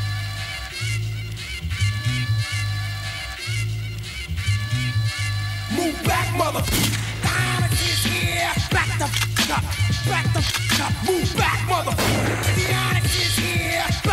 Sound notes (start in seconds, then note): 6.7 gunshot resonating; 9.0 gun cocking; 12.0 gun cocking; 12.0 gunshot resonating